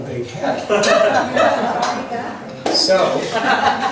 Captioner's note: laughs